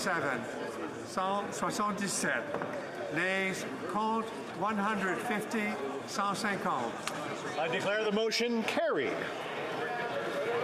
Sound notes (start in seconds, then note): 4.4 speaking French